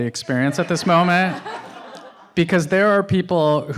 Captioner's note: audience laughs